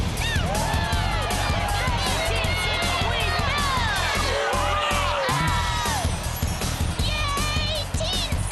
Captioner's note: cheering